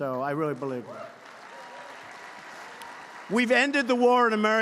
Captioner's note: applause